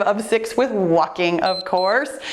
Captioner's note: timer beeps